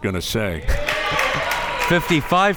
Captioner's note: crowd members cheering